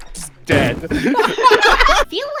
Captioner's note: laughter